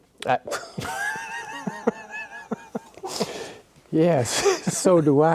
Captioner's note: laugh